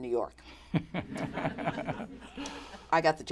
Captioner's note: laughter